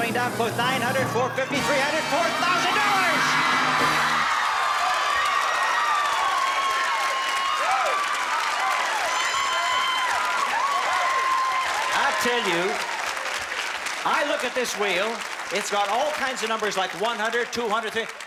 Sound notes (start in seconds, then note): 2.4 applause and cheering